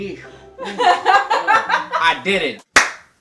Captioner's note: laughs; claps